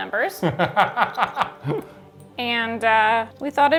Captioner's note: laughs